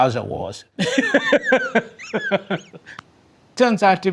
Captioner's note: person laughing